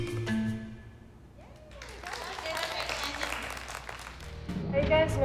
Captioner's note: applause